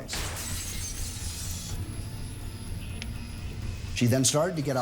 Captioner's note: glass shattering; stirring music